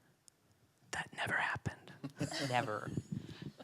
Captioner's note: whispers